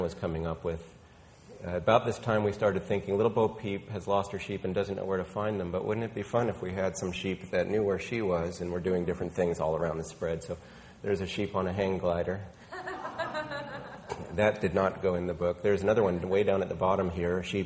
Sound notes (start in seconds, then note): 12.7 woman laughing